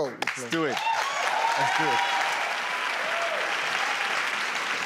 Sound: crowd cheering

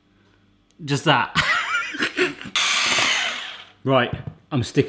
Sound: laughs

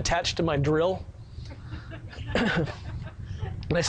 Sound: sound of laughing from audience

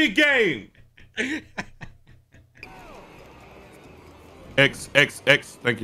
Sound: laughing continues

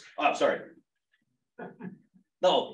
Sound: chuckles

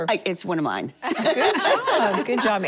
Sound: laughing

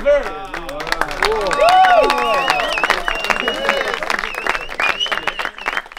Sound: cheering

